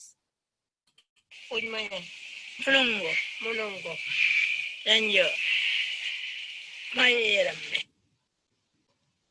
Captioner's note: language other than English being spoken